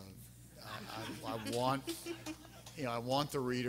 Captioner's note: everyone laughing